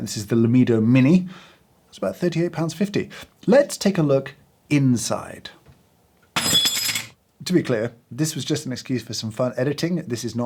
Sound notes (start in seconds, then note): 6.4 metal clanging